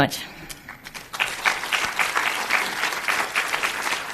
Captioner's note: crowd applauds